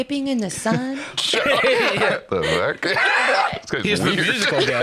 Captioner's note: laughs